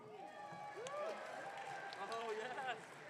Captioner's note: audience cheering